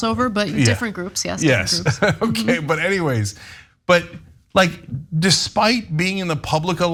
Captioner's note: laugh